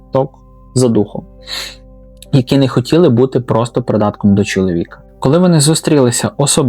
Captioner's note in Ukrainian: сопіння